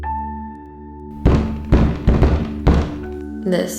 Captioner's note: loud Knocking